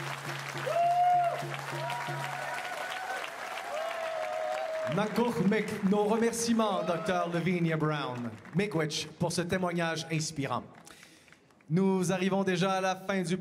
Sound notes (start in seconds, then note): 0.5 speaking Indigenous LANGUAGE; 2.1 applause; 5.9 cheers and Applause; 10.8 speaking French